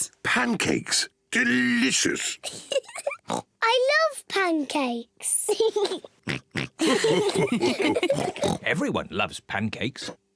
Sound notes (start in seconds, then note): 2.5 giggles and oinks; 5.6 giggles and oinks; 6.8 all laugh; 8.1 mummy pig oinks